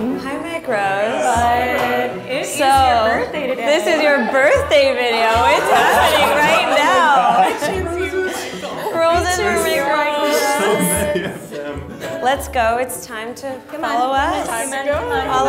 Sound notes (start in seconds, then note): 6.9 laughing